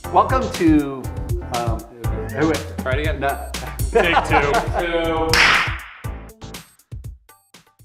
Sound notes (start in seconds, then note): 3.4 laughing